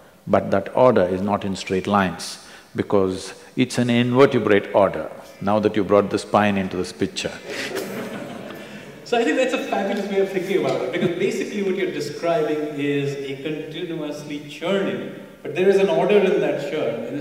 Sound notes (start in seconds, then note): 7.4 laughter